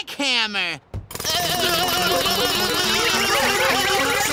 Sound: shouting

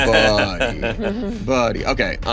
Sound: laughing

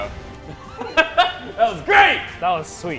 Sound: laugh

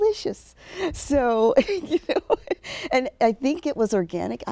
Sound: laughing

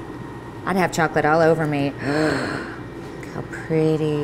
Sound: gasps

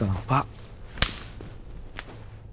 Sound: hands clapping

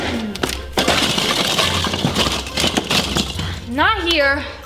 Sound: decorations clink

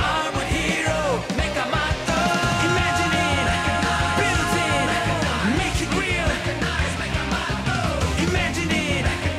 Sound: none

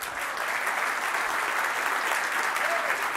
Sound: applause

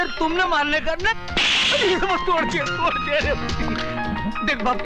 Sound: slap

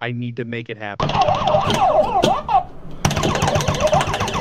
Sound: game beeping

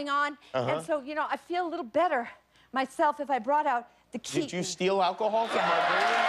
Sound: laughter

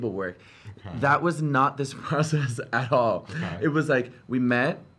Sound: laughs

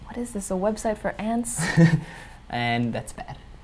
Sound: laugh

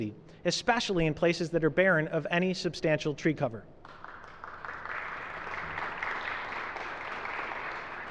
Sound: applause

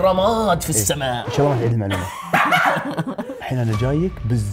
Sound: everyone laughs

